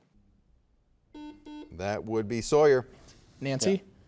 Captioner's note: soft beeping